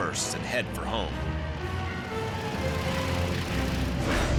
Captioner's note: engines whirring